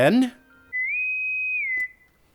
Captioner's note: bosun’s whistle